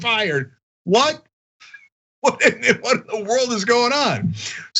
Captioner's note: laugh